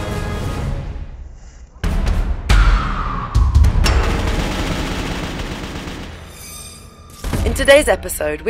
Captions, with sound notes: [gunshots] PERFECT SHOT In today's episode,